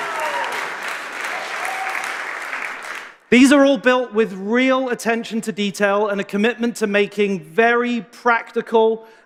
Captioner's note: cheers and applause